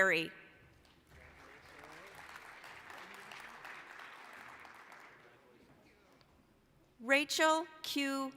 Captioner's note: applause